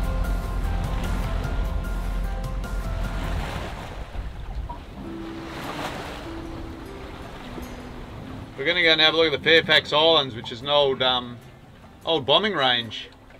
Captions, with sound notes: (waves crashing) (gentle guitar music) We're gonna go and have a look at the Fairfax Islands which is an old bombing range